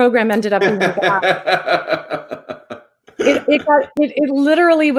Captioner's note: laughs